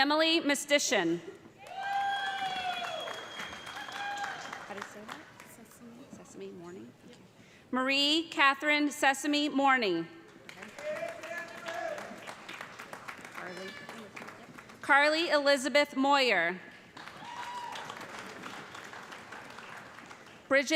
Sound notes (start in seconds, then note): 1.6 cheers and applause; 12.0 applause; 17.0 cheers and applause